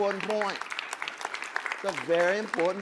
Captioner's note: audience applauding